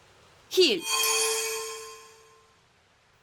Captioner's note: healing noise